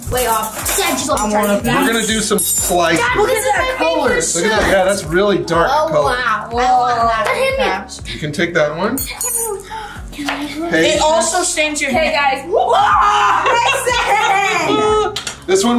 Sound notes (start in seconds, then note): 12.6 screaming